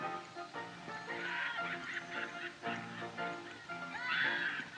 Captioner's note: people Laughing